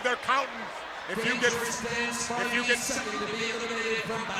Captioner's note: speaks faintly